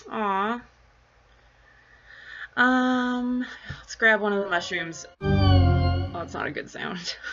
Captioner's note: impending doom sfx